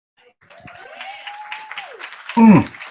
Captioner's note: audience cheering and applauding